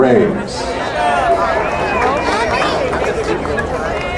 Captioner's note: crowd cheering